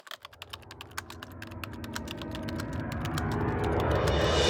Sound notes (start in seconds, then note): 0.0 typing